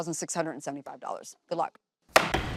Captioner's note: gavel bangs